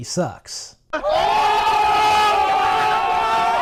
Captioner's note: crowd cheering